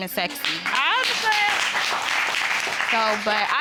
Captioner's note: audience applauding